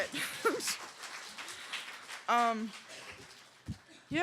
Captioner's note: applause